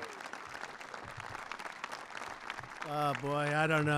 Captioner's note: applause